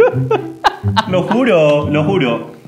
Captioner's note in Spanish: risas